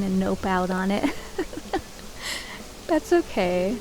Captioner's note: laugh-crying